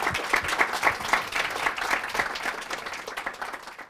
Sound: clapping

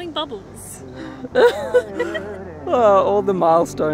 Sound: both laugh

